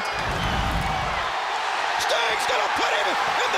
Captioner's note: crowd cheering